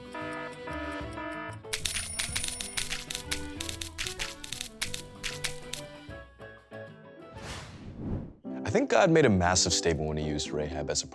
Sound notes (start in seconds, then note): 0.2 alarm buzzes; 1.7 bell rings